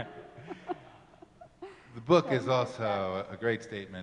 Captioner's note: laughing